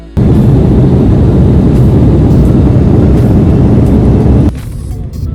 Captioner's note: airplane engine roaring